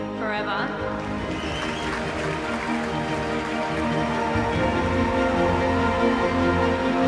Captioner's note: inspirational music; audience applauding